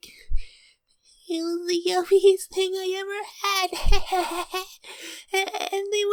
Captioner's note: giggles lightly